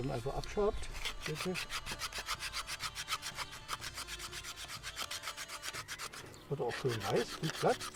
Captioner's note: knife scrapes on wood